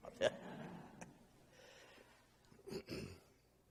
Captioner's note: laughing